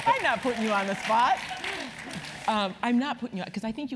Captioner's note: applause